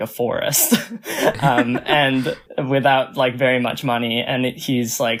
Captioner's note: laughs